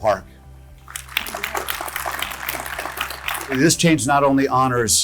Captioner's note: audience clapping